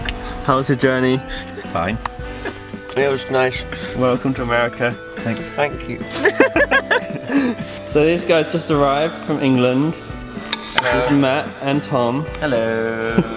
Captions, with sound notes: — How was your journey? — Fine. — It was nice. — Welcome to America. — Thank you. [All laugh] So these guys just arrived from England. This is Matt and Thom. — Hello.